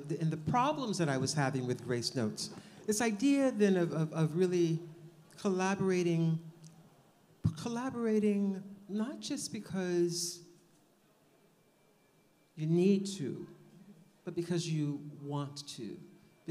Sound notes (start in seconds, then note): none